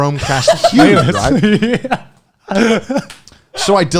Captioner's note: laughing